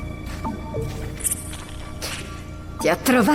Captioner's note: leech squelching